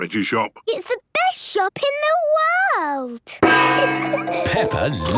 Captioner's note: kids giggling